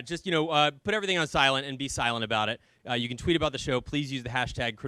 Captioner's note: none